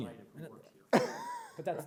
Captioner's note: laughs